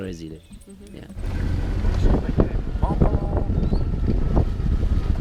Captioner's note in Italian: Inglese; suono di motore che rallenta